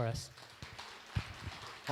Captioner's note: applause